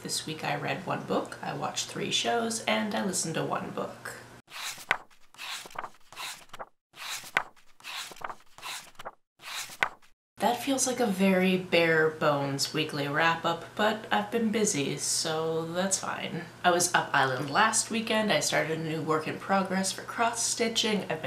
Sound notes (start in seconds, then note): 4.5 pages turning